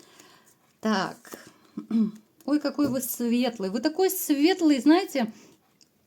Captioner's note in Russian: откашливается